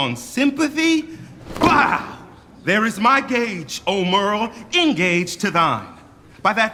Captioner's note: gage hits the ground